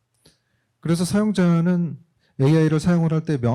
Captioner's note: speaking korean